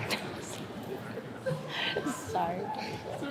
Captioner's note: chuckles